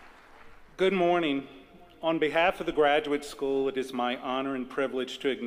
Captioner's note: applause